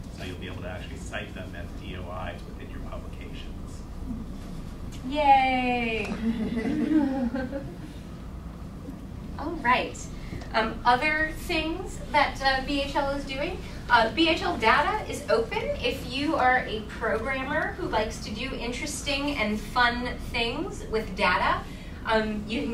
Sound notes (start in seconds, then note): 6.1 audience chuckling